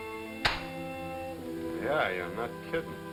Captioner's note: gun pops